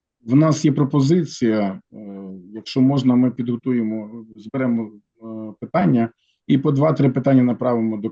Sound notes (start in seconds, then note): 1.0 non-english speech